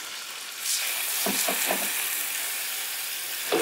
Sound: sizzling

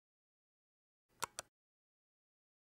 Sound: click

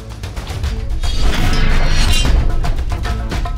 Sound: whooshing

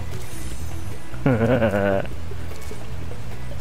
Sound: laughing

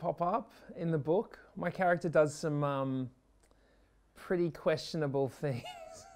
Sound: laughs

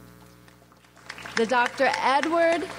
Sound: audience applauds

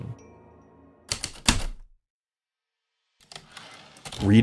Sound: typewriter keystrokes, return slide

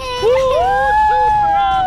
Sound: cheers

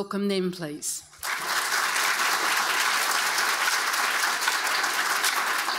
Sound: audience applauding

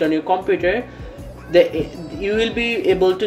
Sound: breathes

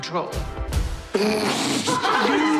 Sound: laughing

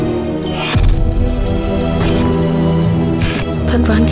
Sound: clicking

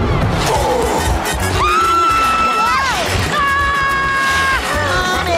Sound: growling; screaming

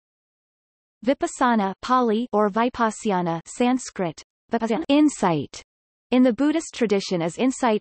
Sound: Pāli

